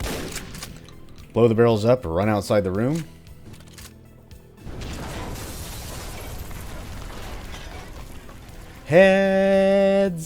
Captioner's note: boom; building rumbling loudly